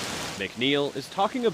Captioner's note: rain and hail pour